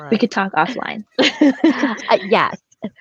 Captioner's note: laughs